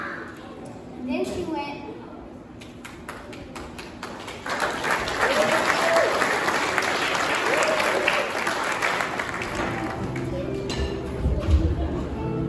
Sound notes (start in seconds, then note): 2.8 applause